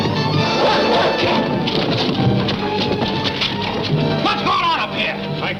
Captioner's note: dog barking